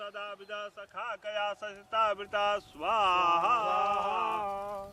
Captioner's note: chanting continues